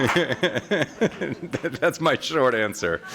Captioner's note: laughter